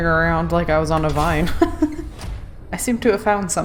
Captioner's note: laughs